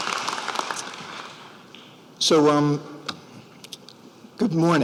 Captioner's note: applause